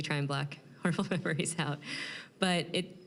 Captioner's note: chuckling